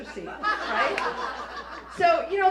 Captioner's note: raucous laughter